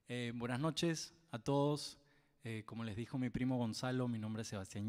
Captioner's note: speaks in Spanish